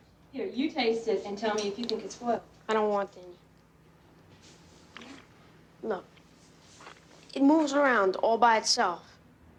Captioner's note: none